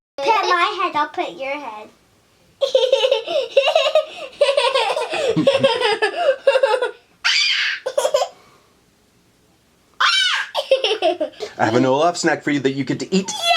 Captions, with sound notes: Pat my head. I'll pat your head. [Laughter] I have an Olaf snack for you that you get to eat.